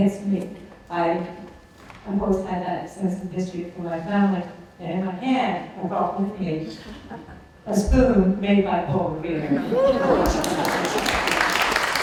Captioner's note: applause